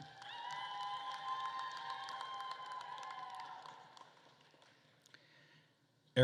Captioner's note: attendees cheering and applauding